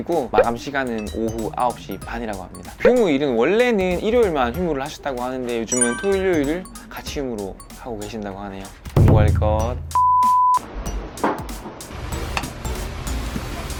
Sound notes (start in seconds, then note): 11.8 boiling